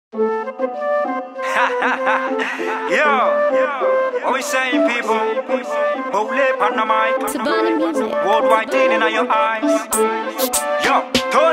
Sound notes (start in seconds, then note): 0.5 upbeat flute music; 1.4 laughing